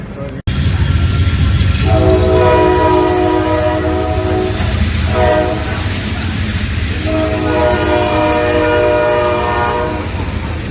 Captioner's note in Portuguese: som de trem